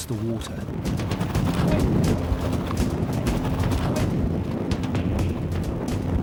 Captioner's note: water whooshing; intense music